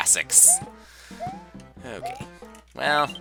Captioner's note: inhaling